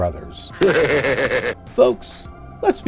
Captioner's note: Warner Brothers laughs deviously - this won't be the end!